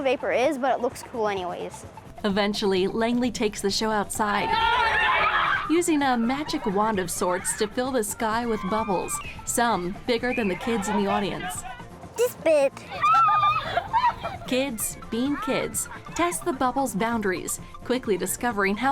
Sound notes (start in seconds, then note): 4.4 kids cheering; 12.9 laughter